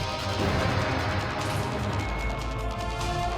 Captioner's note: gunshot